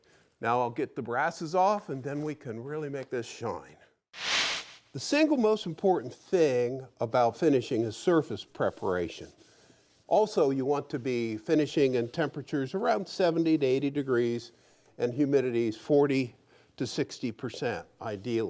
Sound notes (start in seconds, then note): 4.1 flash sound